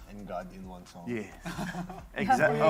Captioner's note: chuckles